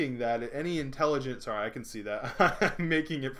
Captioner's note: laughing